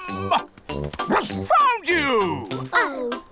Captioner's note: barks